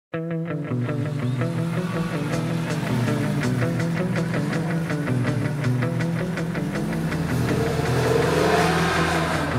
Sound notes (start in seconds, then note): 0.4 upbeat music; 0.5 engine roaring